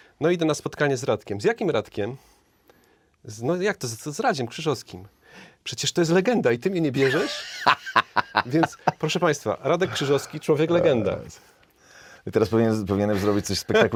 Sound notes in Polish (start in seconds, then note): 7.0 śmiech